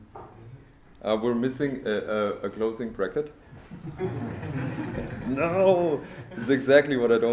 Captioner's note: laughter